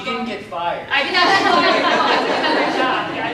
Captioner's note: laughter